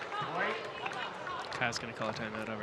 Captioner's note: audience clapping